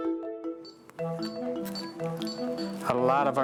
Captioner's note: machine beeping